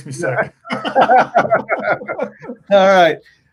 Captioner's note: laughing